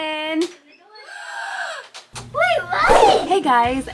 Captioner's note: gasping